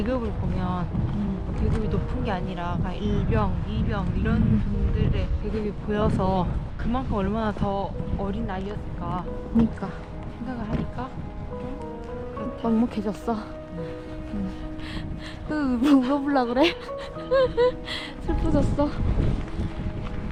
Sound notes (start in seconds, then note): 10.4 holding back tears